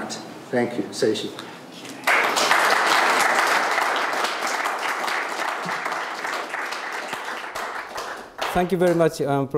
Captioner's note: audience applauding